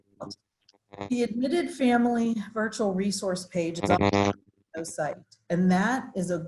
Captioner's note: audio static